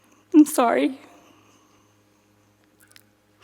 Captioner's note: sniffles